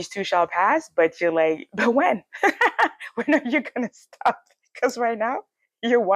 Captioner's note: laughs